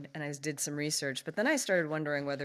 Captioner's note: none